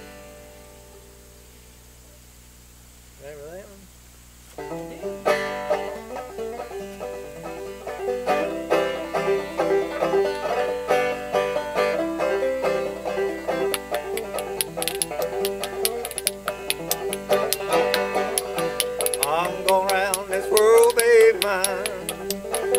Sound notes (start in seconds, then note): 0.0 banjo strums; 5.9 upbeat banjo music; 13.9 spoons clacking